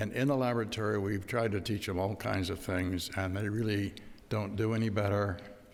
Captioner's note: none